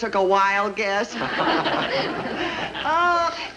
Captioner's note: all laugh